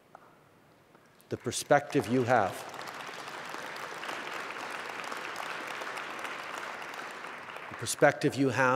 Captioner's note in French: Applaudissements